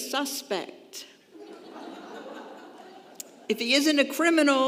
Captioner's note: congregation laughing